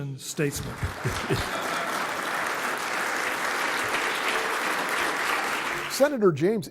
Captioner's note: applause